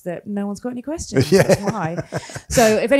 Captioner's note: laughs